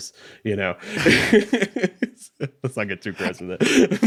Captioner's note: laughing